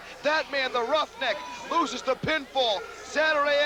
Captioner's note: crowd cheering